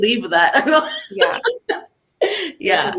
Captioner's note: laughs